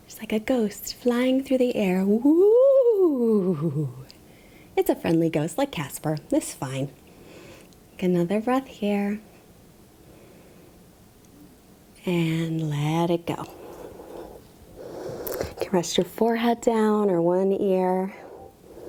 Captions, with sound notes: just like a ghost flying through the air, woo! It's a friendly ghost like Casper, it's fine. Okay, another breath here, and let it go. (exhales deeply) You can rest your forehead down or one ear.